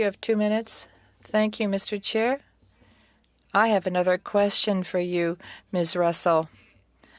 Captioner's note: speaking French